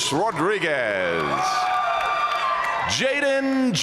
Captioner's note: audience cheering and applauding